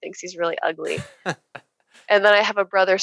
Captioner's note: laughing